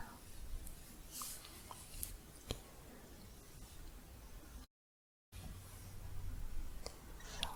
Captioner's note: stroking bristles